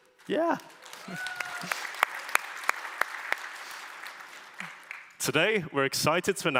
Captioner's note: applause